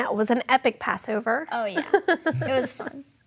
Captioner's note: chuckling